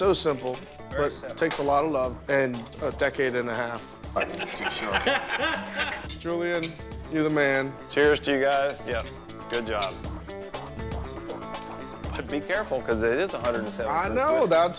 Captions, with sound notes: but it takes a lot of love and a decade and a half. (laughter) Julian, you're the man. >> Cheers to you guys. >> Yep, good job. >> Be careful, 'cause it is 175 whiskey.